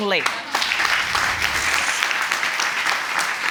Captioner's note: applause